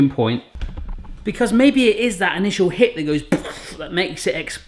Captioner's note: blowing